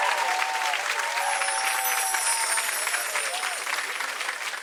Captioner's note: audience cheering and applauding; chiming